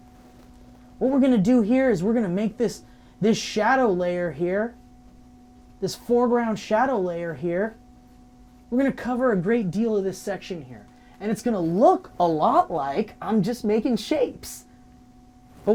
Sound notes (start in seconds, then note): none